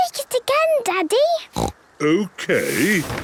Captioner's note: snorting